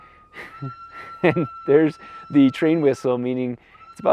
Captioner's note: train whistles